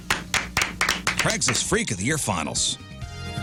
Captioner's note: clapping